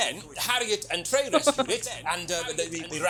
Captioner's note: chuckles